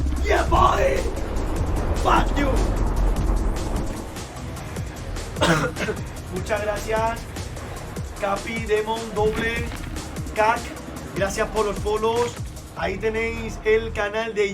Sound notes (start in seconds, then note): 5.3 Coughs in Spanish